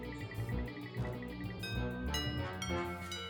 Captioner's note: chimes play